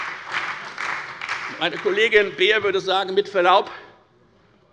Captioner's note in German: Beifall bei der FDP, der SPD und der LINKEN